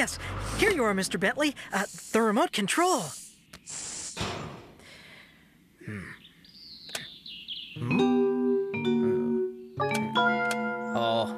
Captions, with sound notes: YES, HERE YOU ARE, MR. BENTLEY, THE REMOTE CONTROL. ( Click! ) HMM?? ( Click! Click! )